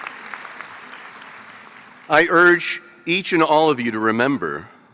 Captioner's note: applause